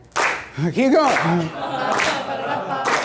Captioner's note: laughs